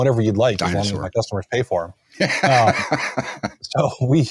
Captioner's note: laughing